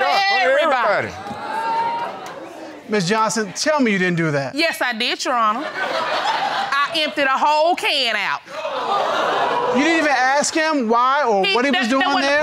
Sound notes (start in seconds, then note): 5.7 laughing